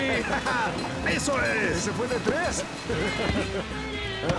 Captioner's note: bell ringing